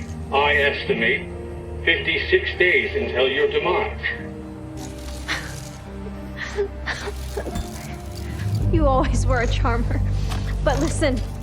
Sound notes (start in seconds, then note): 6.1 laughs